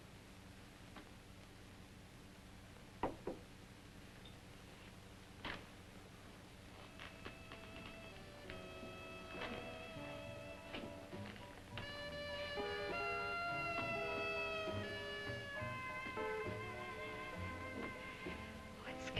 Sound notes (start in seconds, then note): 3.0 glass sets down gently; 6.6 soft ominous jazz music